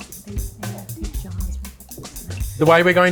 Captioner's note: teams murmuring